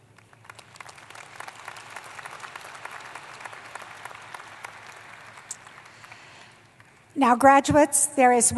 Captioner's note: applause